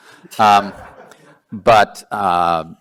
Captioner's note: laughing